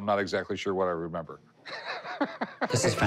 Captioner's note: laughs